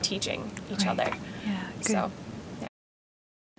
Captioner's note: voiceover